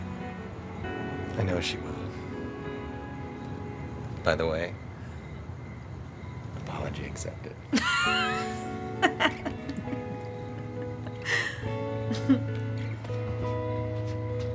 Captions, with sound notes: - I know she will. By the way, apology accepted. (laughs)